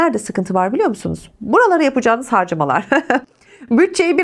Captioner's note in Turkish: kahkaha